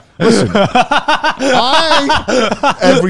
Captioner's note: laughs